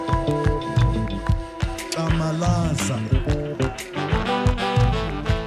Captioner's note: speaking foreign language